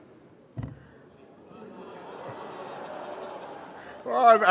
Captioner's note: exclamations